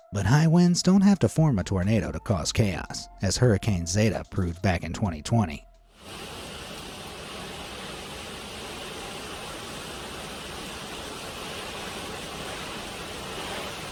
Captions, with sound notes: But high winds don't have to form a tornado to cause chaos, as Hurricane Zeta proved back in 2020. (wind whirring) (rain slamming)